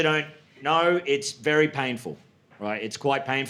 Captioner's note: none